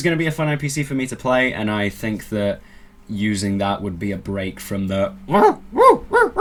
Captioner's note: weird barking noises